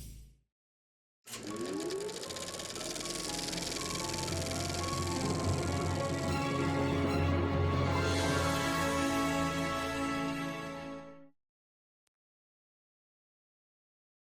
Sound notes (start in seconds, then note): 1.3 film reel clicking; 2.9 dramatic theatrical music